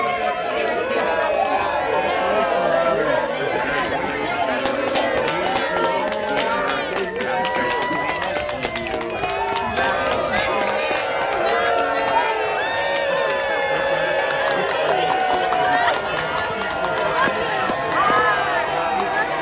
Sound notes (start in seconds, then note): 0.6 cheering